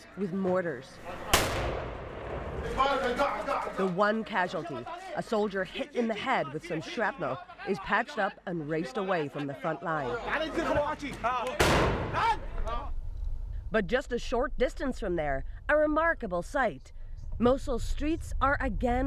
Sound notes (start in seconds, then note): 3.8 explosion